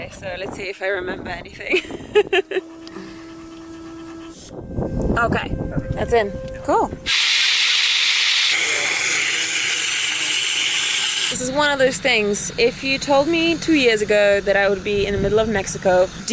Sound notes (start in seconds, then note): 4.3 laughs; 7.2 air blowing